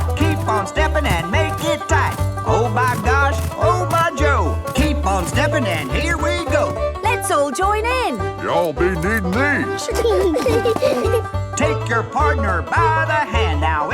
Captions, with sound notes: Keep on stepping and make it tight. Oh my gosh! Oh my Joe! Keep on stepping and here we go! - Let's all join in! - Y'all be needing these! (laughing) - Take your partner by the hand!